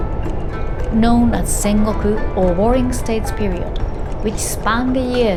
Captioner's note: speaking Japanese